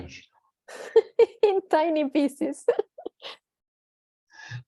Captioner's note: laughter